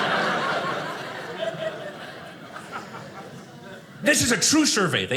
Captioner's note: audience laughing